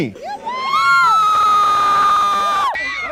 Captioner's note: hysterical screaming